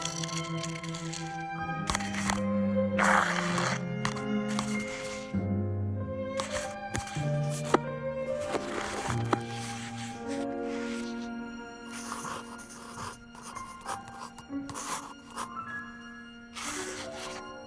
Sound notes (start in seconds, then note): 5.7 gentle music; 11.8 pencil scratching